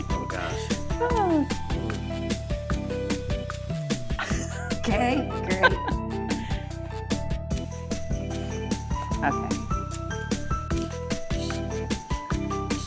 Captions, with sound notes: (giggling) Okay. - Oh gosh, hmm. - (chuckling) Okay, great. - Okay.